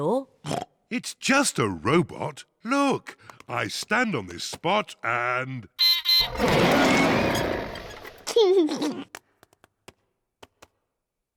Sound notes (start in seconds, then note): 0.5 oinks; 5.8 beeps and roars; 8.1 laughs